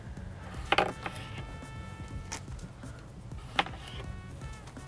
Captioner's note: knife thunking